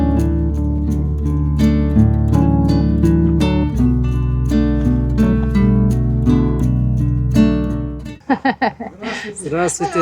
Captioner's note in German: gelächter